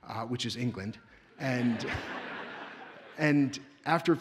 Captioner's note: audience laughs